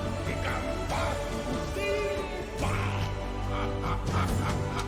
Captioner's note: cackles